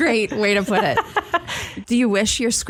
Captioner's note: laughs